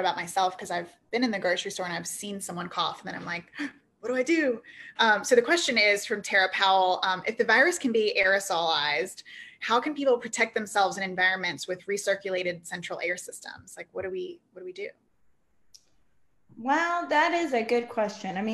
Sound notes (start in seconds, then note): 3.7 gasps